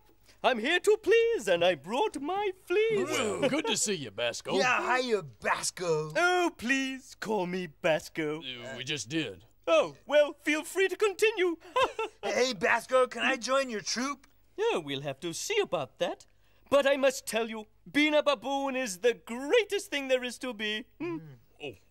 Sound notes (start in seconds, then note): 11.2 laughs